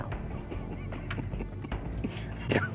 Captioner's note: laughs